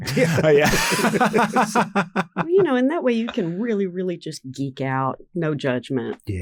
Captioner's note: laughs